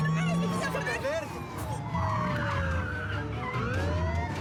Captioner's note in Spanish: chirrido de neumáticos